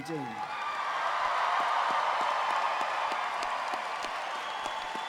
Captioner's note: audience cheering; audience applauding